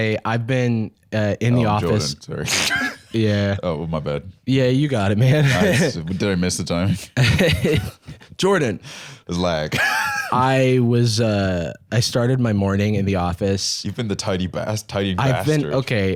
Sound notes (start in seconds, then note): 2.5 laughs; 7.0 laughs